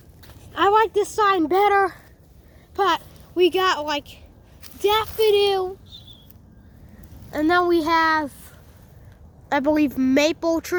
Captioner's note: whistling noise thing